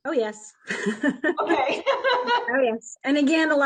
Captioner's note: laughs